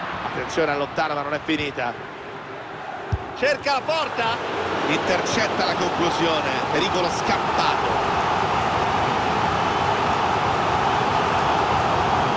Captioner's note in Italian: Applauso